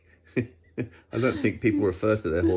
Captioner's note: both laugh